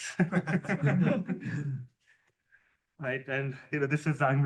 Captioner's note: laughter